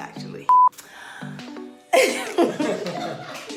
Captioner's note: beeps; laughing